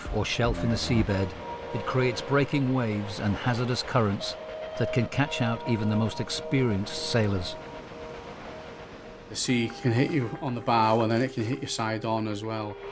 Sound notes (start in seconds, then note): 7.4 water whooshing; 7.8 waves crashing